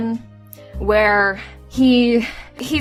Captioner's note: sighs